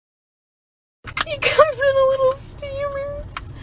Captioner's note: sobbing